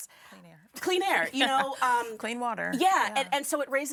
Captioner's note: laughing